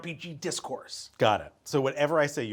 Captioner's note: none